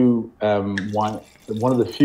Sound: wine pouring

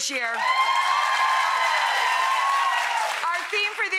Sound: audience cheering

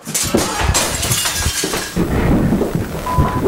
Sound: crashing noise

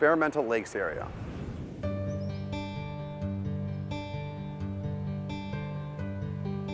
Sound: air whooshing; calming music

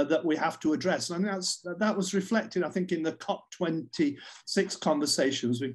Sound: none

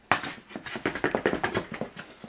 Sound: toe tapping

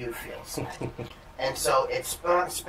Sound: laughter

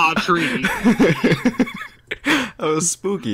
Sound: laughing like a moron

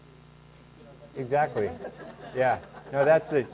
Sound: laughing

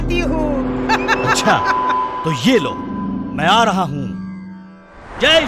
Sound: laughs

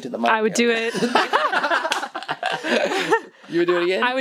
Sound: laughter

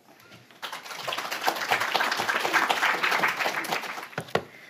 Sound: audience applauds

